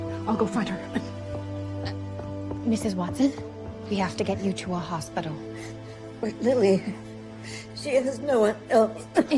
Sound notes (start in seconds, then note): 0.8 coughing